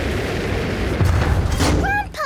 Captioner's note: thuds